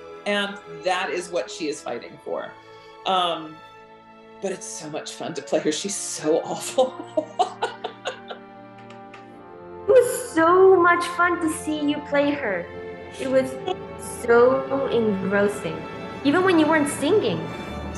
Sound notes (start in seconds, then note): 6.5 laughs